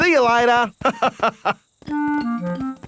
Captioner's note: laughs